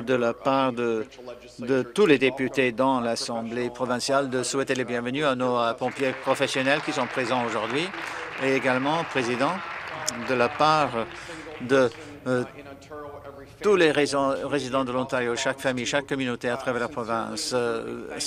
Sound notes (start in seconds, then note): 10.0 applause